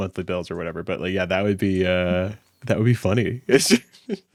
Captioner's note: laughs